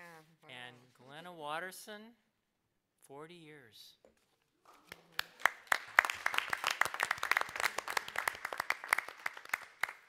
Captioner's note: applause